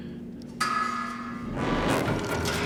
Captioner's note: clang